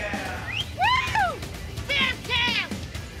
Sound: yells; whistles

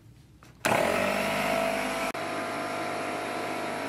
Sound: machine whirs

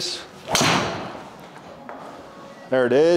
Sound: golf club striking ball

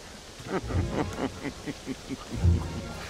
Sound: laughing

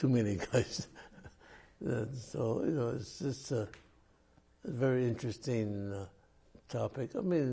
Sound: laughs

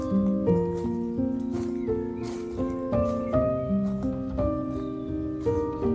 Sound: leaves crunching underfoot

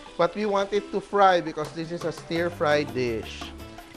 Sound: sizzle

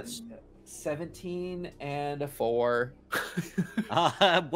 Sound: chuckling

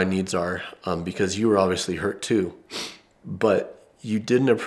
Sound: sniffs

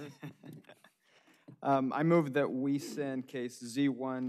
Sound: laughter

